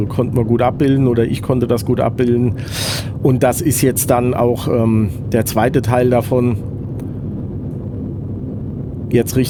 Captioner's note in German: schnauben